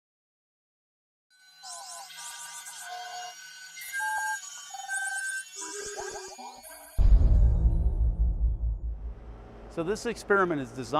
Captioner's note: sound Effects